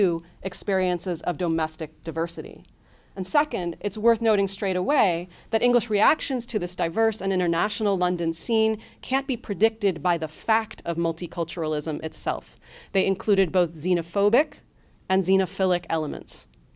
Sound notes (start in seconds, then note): none